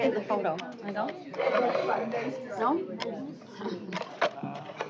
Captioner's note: indistinct chatter